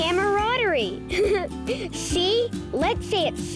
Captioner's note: laughing